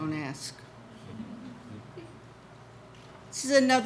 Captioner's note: audience laughs